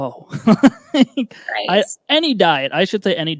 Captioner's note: laughing